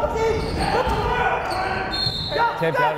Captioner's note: yelling